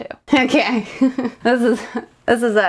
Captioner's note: chuckles